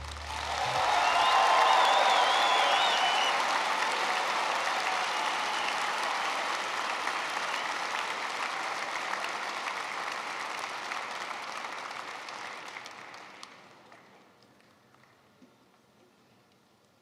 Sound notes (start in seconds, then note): 2.2 applause